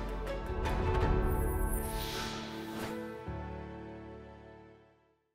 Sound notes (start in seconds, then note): 0.0 upbeat music; 1.6 air whooshing